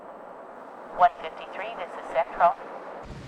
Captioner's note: voiceover